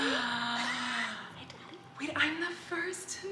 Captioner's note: gasps